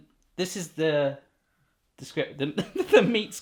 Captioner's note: laughing